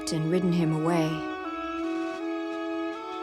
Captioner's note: birds chirping; calm music playing